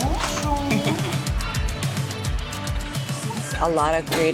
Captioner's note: woman giggling